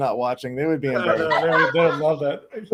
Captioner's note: panelists laugh